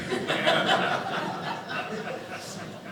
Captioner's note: audience laughing